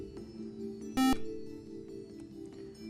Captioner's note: buzzer